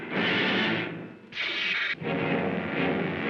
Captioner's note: zapping sound; dramatic suspenseful music; rumbling sound